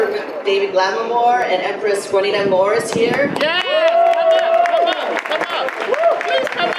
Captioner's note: audience applause